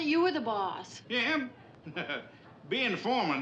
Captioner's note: Pylant kıkırdama